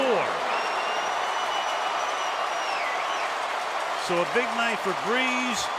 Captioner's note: crowd cheering